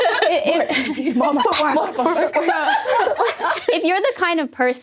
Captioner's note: laughing